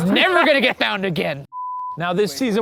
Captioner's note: screen beeps